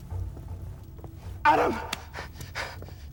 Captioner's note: gasps